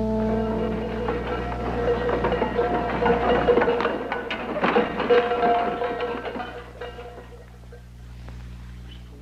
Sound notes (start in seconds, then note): 0.3 rattling